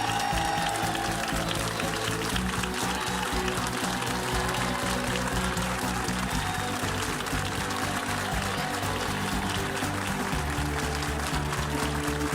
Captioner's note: cheers and applause